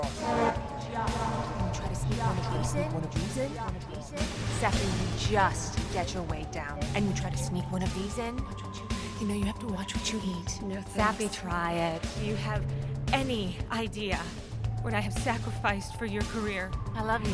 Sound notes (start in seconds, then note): 0.0 echo